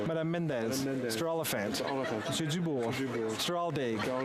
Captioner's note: speaking French